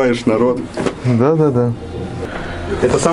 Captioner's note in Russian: сарказм